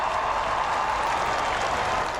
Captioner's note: cheering